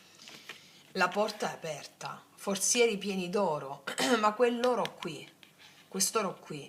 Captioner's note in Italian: schiarire la voce